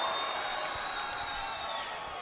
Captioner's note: crowd cheering